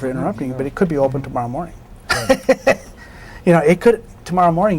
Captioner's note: laughs